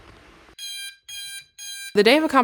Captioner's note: alarm buzzing